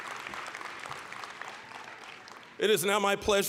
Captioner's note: applause, cheering; applause